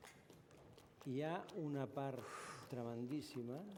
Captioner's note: non-english speech